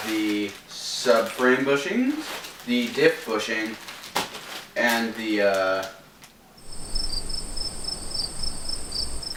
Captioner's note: cricket noises